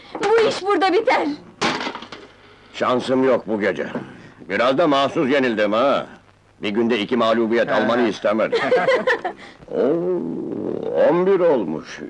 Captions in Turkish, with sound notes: Bu iş burada biter. Şansım yok bu gece! Biraz da mahsus yenildim ha! Bir günde iki mağlubiyet almanı istemedim. [Gülüşmeler] Ooo, on bir olmuş...